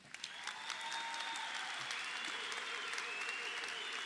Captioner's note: crowd applauds